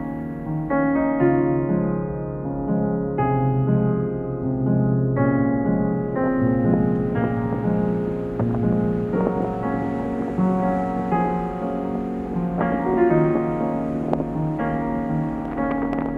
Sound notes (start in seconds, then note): 8.2 wind blowing